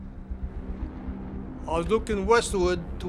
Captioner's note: plane engines buzz